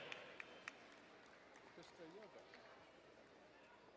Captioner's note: distant clapping